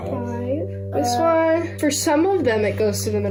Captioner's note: murmurs